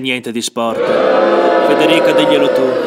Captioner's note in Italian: Folla urla